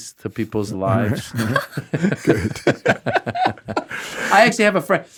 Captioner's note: everyone laughing